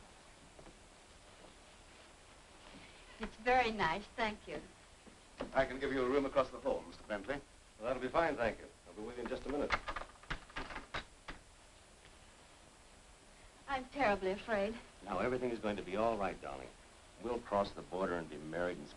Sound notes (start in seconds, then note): 9.6 doorstop rattling